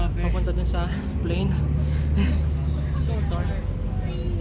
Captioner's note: breathing heavily